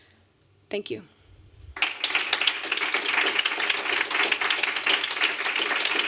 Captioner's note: applause